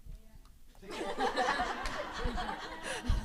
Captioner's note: laughter